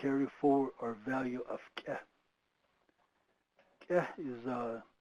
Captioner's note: speaking foreign language